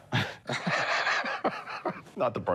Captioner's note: both laughing